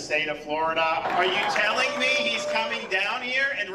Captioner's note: cheering and applause